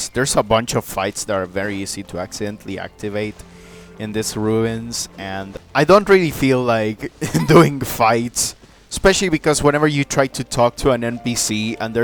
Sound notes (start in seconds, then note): 7.2 laughs